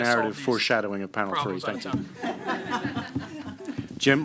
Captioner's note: laughter